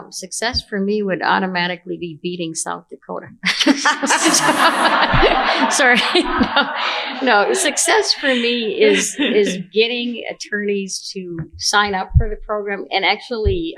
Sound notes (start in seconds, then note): 3.5 laughter